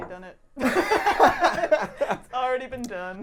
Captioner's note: laughing